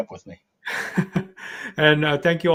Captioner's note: laughs